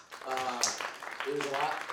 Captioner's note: audience claps